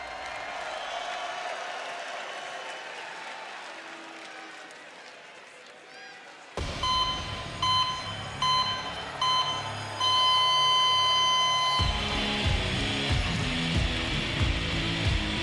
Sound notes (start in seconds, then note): 0.1 cheers and applause; 9.2 beeping